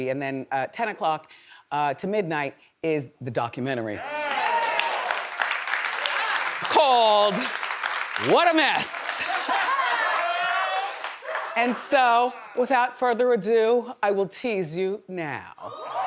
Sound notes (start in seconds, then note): 4.2 audience applauds; 8.8 audience laughs; 8.8 woman laughs; 15.8 audience cheers